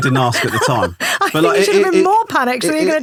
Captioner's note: laughing